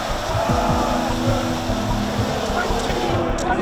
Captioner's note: crowd chanting